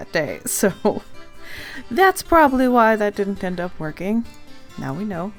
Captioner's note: laughs